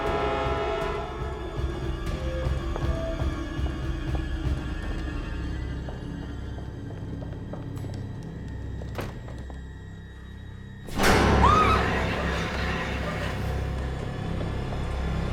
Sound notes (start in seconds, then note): 6.6 shoes tapping; 9.0 door clicks; 11.1 loud sinister music; 11.2 Elaine screams